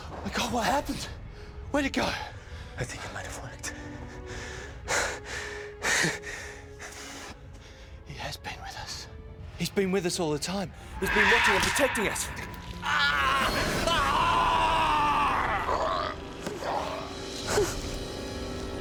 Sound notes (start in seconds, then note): 11.0 alien roars; 13.0 screaming